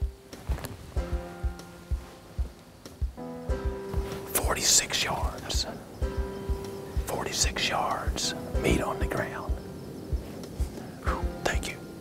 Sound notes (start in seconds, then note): 4.6 whispering